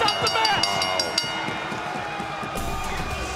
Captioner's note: bell rings